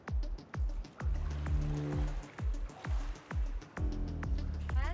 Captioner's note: water sloshing